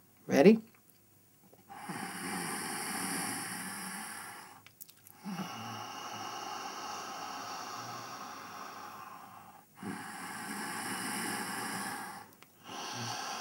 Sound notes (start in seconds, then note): 2.0 sound of inhalation - "Hhhhh"; 5.1 sound of exhalation - "Hhhhh"; 10.4 sound of inhalation - "Hhhhh"; 13.2 sound of exhalation - "Hhhhh"